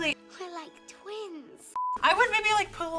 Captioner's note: beep